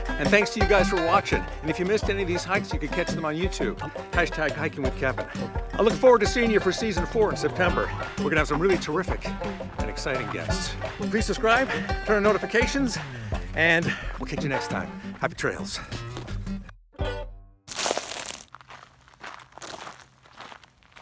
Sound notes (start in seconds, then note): 17.6 gravel crunching